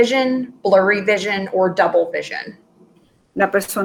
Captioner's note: speaking in Foreign Language